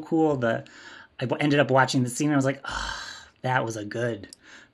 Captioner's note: sigh